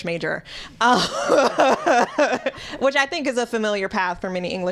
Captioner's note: laughter